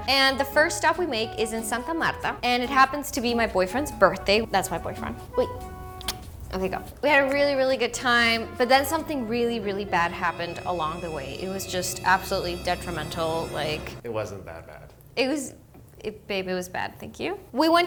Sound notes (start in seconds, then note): 6.0 kissing noise